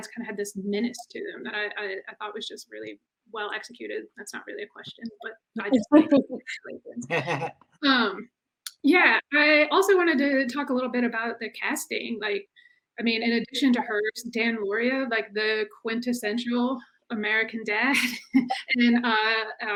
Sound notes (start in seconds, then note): 7.0 chuckles